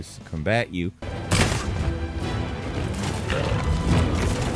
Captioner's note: gun firing